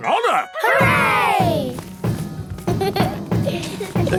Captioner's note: laughter; drumming